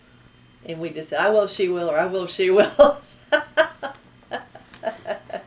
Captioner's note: laughs